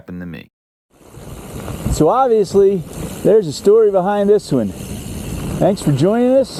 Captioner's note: mountain bike whirring. gravel crunching